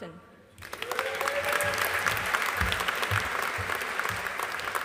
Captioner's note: audience applauding